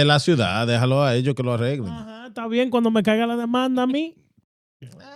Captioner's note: speaking In Foreign Language